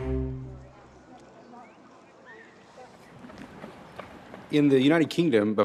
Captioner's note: indistinct chatter